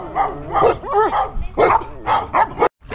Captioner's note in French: aboiements en français